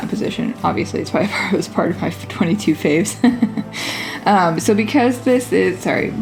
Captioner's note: laugh